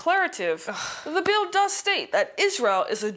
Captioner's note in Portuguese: suspirando